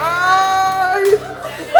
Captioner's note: screams